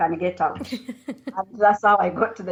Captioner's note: laughter